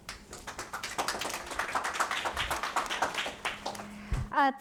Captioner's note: audience applauding